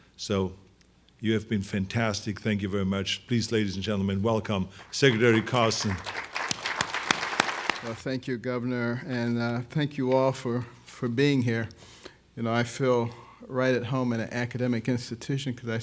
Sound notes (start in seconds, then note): 4.7 audience applauds